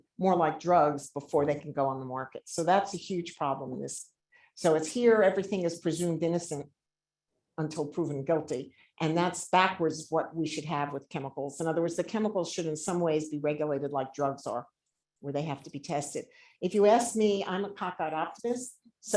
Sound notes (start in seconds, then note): none